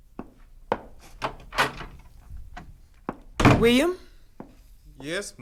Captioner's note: footsteps depart, door opens; door closes